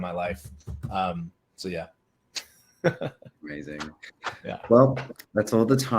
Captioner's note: laughs